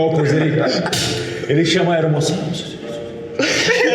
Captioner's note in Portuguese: Sussurros